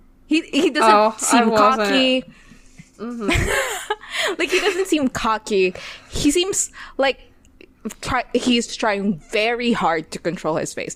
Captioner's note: laughs